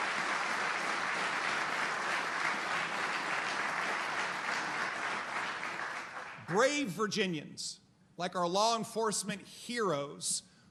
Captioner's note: applause